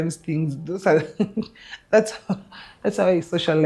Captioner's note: laughs